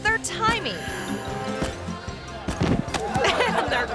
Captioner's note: bright playful music; thuds; giggles